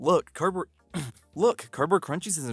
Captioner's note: clears throat